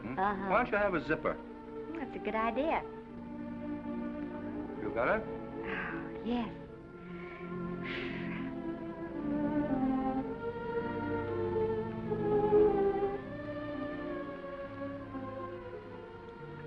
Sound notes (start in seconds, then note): 6.9 Esther exhales; 8.4 gentle music